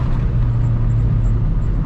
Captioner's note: more squeaking